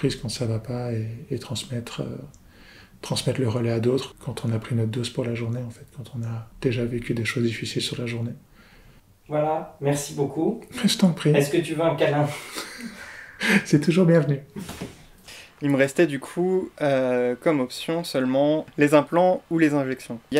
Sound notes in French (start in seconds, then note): 12.2 rires